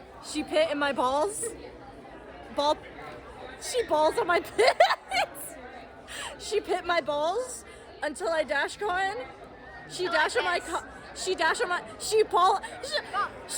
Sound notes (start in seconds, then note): 4.4 laughs